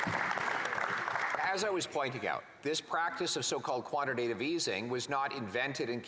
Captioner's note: some Applause